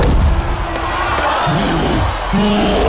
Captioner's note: crowd exclaims; cyclops groans